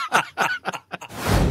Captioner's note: lots of laughter